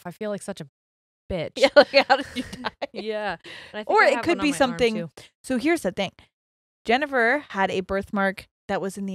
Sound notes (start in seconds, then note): 1.6 laughs